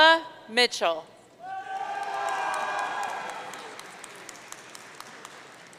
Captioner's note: audience cheering